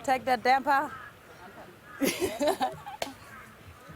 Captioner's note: laughs